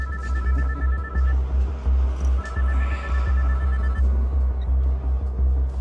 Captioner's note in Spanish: Suena el teléfono